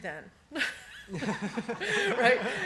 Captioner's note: laughter; laughs